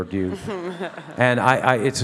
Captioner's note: all laugh